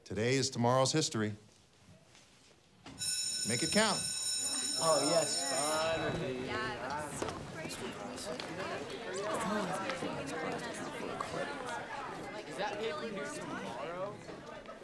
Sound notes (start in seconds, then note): 3.0 bell rings; 5.2 students chattering